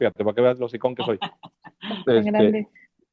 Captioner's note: risas